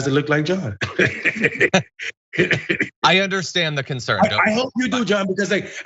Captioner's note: laugh